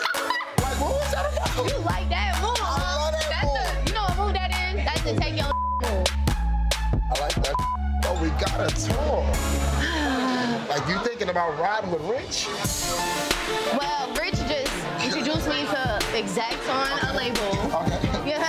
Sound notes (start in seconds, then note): 5.4 beep; 7.5 beep; 9.7 sighs